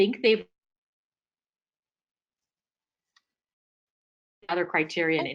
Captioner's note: audio cuts out